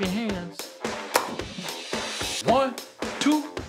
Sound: upbeat music; claps

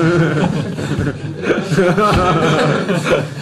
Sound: laughter

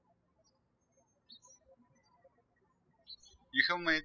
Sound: birds chirping

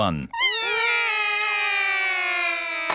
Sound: all cry

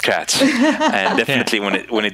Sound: laughs

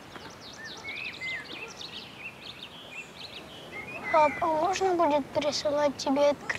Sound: birds chirping

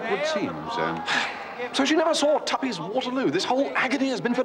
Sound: sighs

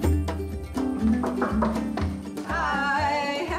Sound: knocks on door

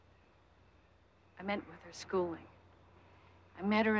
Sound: none

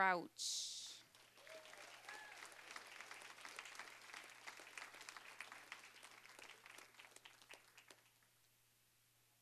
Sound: applause, cheering

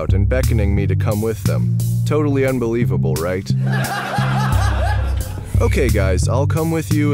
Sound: laughter

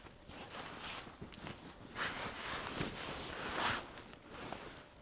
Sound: sleeping bag rustling

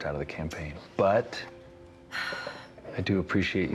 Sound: sighs

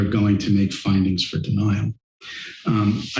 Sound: inhales

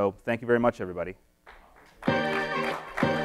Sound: audience applauding; upbeat electronic music

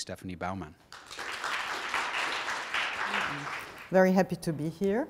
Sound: applause

